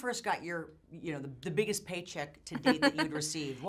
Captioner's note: laughs